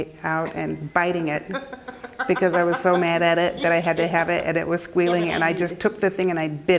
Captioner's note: laugh